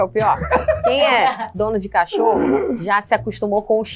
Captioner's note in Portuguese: risadas